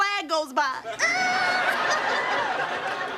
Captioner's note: laughing